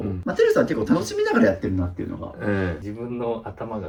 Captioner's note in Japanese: 咳払い